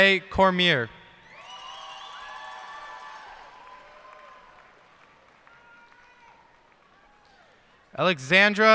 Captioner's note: cheers and applause